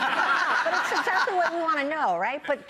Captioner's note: laughing